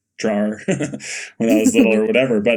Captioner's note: Bode laughing